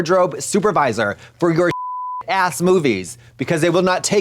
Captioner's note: beep